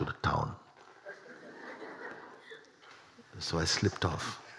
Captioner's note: laughter